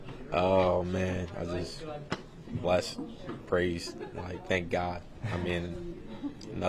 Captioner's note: laugh